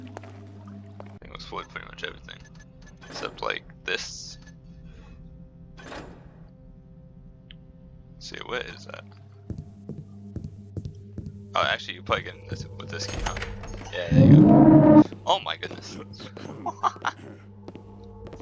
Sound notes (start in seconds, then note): 14.7 loud jumpscare!; 15.3 laughs; 15.8 guard coughs; 18.1 soft footsteps getting quieter